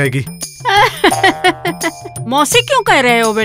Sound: laughs

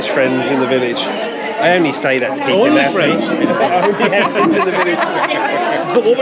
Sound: laughter

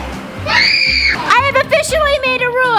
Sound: screams

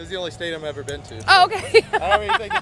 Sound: laughs

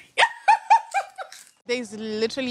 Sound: laughs

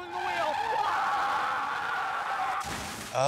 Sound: screaming; car skidding; car crashes

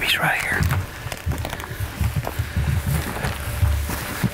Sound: rustling

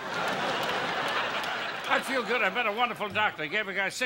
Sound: audience laughing

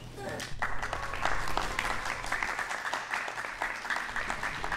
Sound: audience applauding

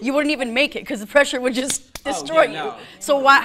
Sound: slapping

